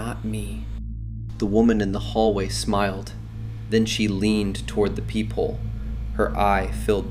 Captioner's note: terrified